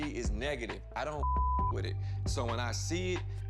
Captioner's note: beep